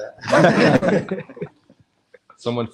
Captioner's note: all laughing